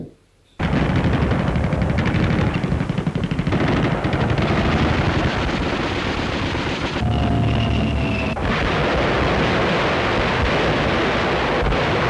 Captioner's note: sounds of gunfire